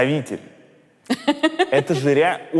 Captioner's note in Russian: смеется